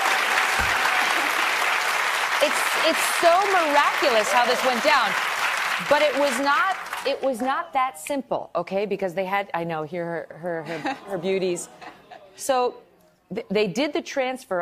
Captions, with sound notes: BUT HOW MANY CHILDREN DO YOU HAVE? >> WE HAVE FOUR BEAUTIFUL CHILDREN. [ APPLAUSE ] >> IT'S SO MIRACULOUS HOW THIS WENT DOWN. BUT IT WAS NOT THAT SIMPLE.